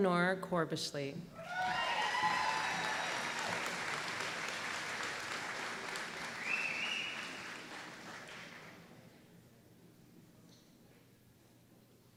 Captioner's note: applause